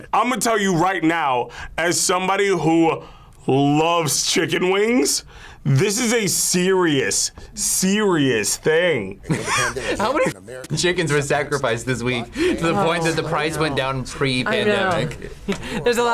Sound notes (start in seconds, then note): 9.2 laughs; 15.6 laughs